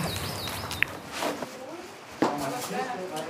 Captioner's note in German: Vogelzwitschern